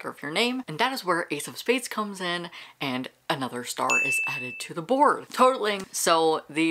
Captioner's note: bell dinging